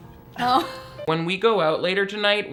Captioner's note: women laughing